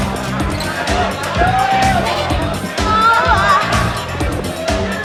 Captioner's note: people talking